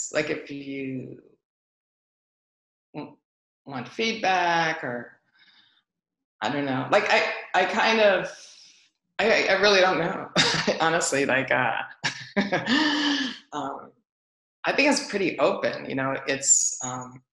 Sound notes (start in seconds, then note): 10.4 laughs; 12.1 laughs